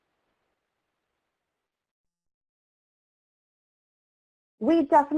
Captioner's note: silence